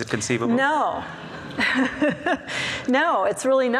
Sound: laughs

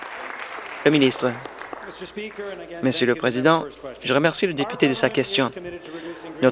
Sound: cheering and Applause

